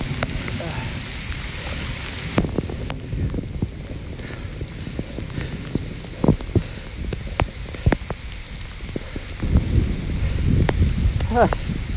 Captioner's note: softer rain sounds